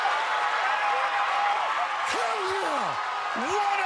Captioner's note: cheering